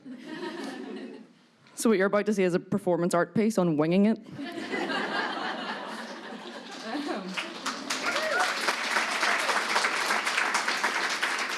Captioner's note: applause